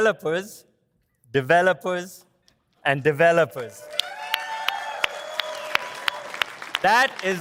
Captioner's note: audience applauds